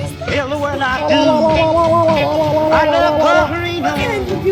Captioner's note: silly noises echoing